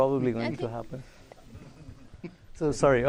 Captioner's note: laughter